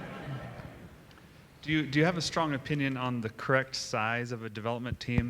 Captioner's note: laughter